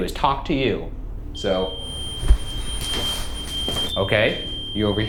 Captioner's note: REM-pod beeps